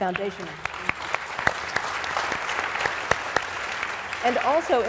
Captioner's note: applause